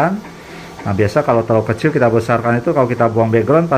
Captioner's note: printer machine noise